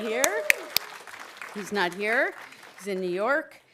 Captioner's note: audience cheering; audience applauding